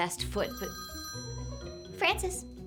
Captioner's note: phone rings